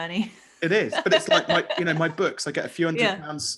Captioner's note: laughing